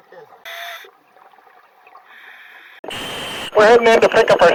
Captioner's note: voice muffled by water; equipment hissing